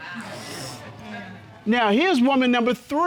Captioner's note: audience exclaims, laughs